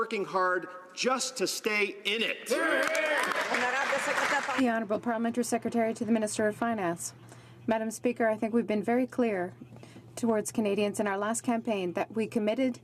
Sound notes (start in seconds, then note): 5.4 some Applause